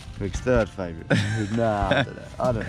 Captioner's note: laughing